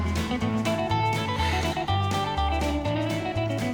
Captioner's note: sighs